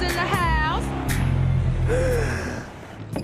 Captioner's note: gasp